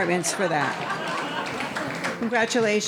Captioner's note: audience laughing